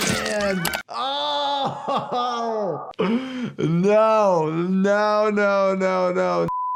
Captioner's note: laughs